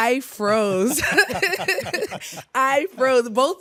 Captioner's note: everyone laughs